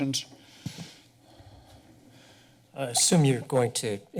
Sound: breaths steadily

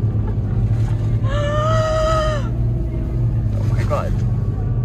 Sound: gasping

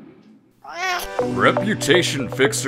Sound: cat meow

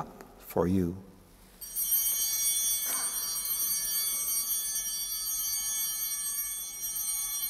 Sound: bell ringing

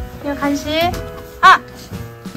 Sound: crying

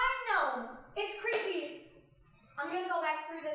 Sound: scared

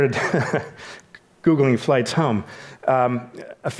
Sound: laughs

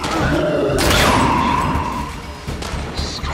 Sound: gunshots

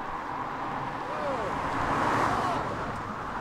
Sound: car Engine Roars

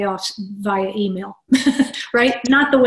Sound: laugh

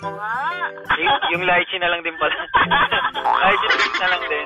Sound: laughs

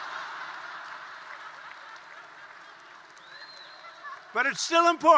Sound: laughter and applause

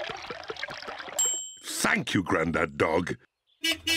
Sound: bell dings; horn beeps

